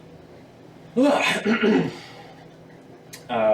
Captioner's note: clears throat